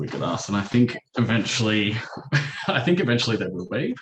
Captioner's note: chuckles